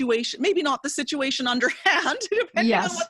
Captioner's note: laughs